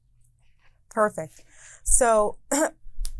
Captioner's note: clearing throat